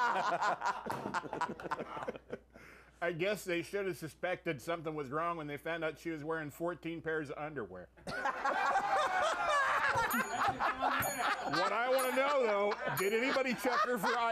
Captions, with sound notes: - SHE DID SEE INTO THE FUTURE. OJ GOES BACK TO JAIL. [Laughter] - I GUESS THEY SHOULD HAVE SUSPECTED SOMETHING WAS WRONG WHEN THEY FOUND OUT SHE WAS WEARING FOURTEEN PAIRS OF UNDERWEAR. [Laughter] [BELL RINGS]